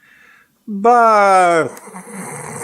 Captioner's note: snore